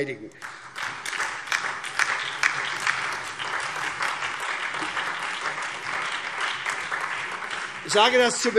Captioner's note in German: Beifall SPD, DIE LINKE und vereinzelt Freie Demokraten